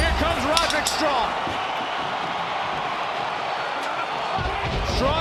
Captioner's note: crowd cheers